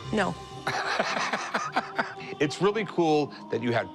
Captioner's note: laughs